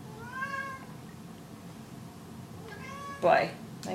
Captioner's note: cat meowing